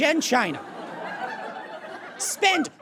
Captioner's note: audience laughs